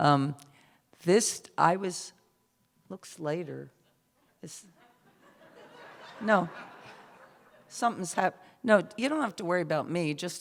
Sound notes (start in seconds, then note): 4.8 laughter